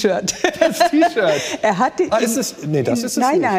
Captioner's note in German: Lachen